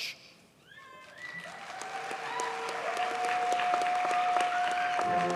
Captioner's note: audience cheers and applauds